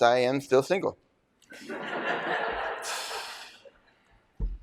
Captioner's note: laughter